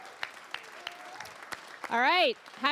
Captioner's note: applause